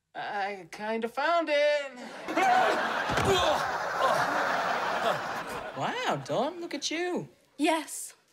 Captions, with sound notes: I kind of found it. [falling] - Wow, Dawn. Look at you. - Yes.